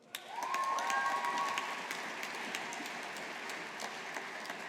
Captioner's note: audience applauding